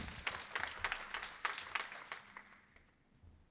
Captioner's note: applause